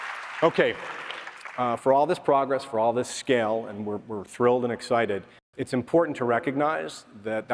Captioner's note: applause